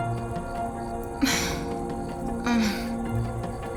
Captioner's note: groaning